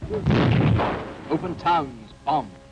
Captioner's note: explosion booms